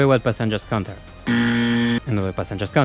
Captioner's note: buzz